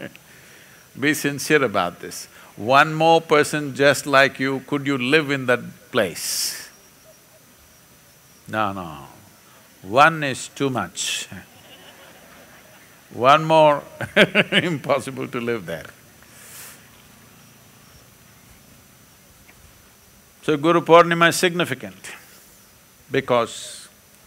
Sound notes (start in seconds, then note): 11.2 few laugh; 13.8 laughs